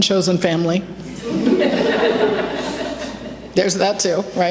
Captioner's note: laughter